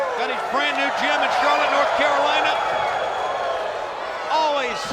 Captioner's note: crowd cheering